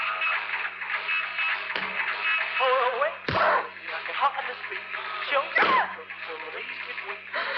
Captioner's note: louise hits the body and groans